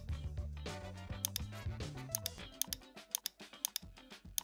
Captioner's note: clicking sound